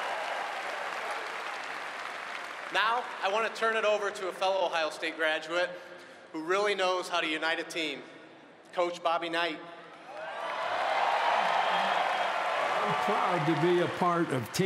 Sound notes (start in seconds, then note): 6.4 cheering and applause